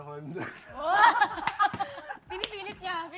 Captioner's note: laughs